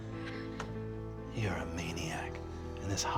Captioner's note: gasps; deep voice